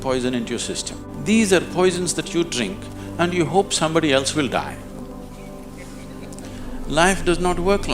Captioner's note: few Laugh